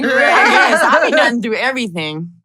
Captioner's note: laugh